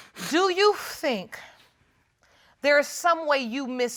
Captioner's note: sniffles